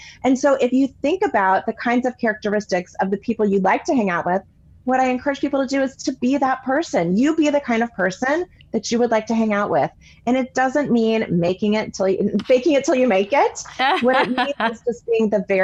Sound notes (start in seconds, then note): 13.7 laughing